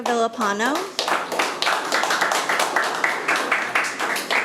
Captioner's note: audience applauding